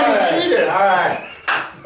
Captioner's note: claps